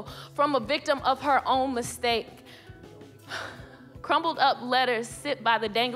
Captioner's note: sighs